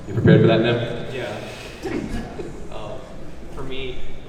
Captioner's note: laughs